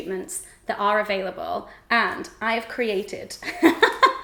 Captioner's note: laughs